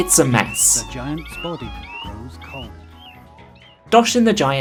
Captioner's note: like 50 sound effects going off at once as the narrator talks